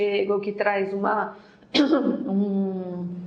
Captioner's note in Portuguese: tosse